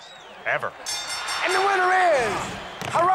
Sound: bell

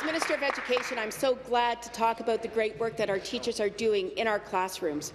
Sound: applause

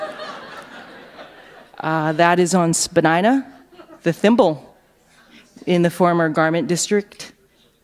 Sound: laughter

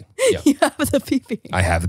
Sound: laughs

